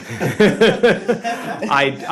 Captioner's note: laughter